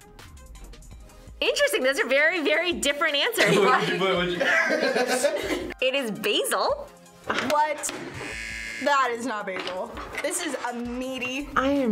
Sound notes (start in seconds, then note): 3.4 both laugh; 8.2 buzzer rings